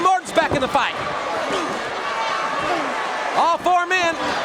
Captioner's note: audience cheering